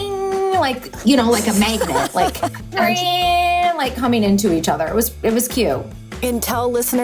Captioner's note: laughs